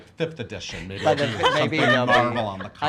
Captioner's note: laughing